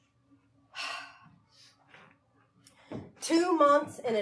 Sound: sighing

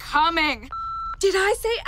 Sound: line beeps

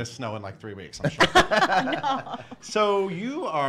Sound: laughs

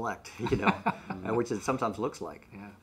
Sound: laughs

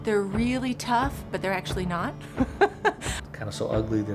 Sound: laughs

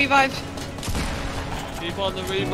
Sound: explosion

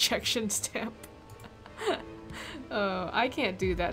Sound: laughs

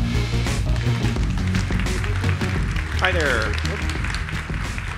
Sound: crowd claps

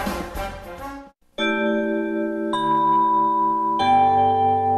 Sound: chime playing

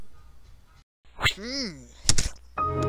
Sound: wind Sound Effect; keyboard Key Sound

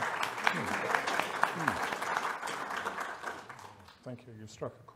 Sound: audience applauding

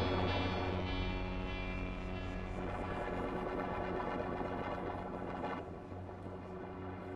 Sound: the chaos of the sound fades, leaving a bed of noise

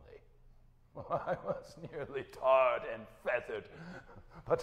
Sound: laughing

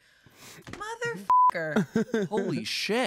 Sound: beep

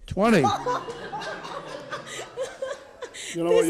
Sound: courtroom laughs

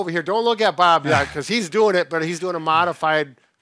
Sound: chuckles

